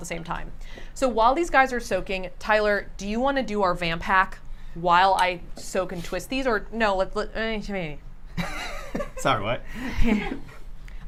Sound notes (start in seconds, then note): 7.2 speaking in gibberish; 9.8 laughs